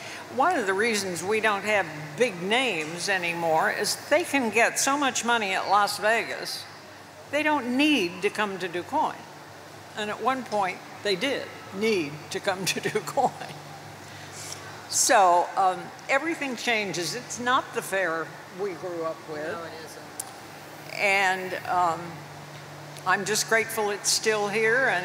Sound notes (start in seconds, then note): 13.0 chuckles